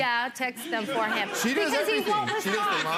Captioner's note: people laugh